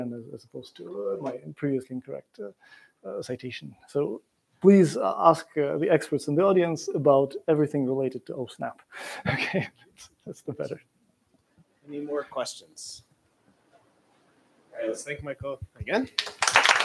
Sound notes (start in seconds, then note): 9.2 laughs